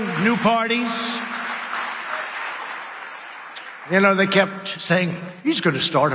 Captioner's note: applause